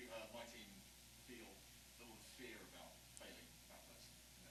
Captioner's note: speaks faintly